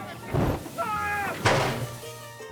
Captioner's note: engine exploding; hood slamming; man screaming